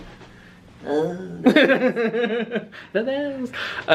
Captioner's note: laughs